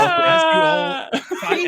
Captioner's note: laughing